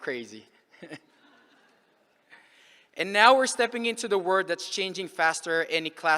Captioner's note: laughs